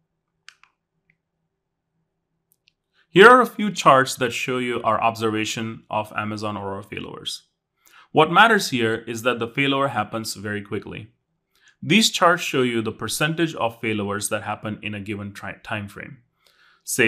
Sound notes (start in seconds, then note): 0.4 remote clicking